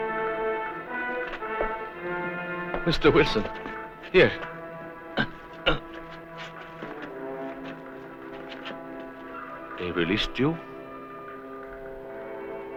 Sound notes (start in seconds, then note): 5.1 grunts